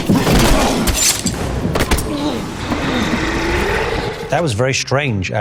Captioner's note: metallic noise